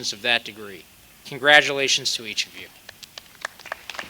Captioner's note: applause